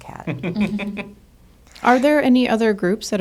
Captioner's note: group laughing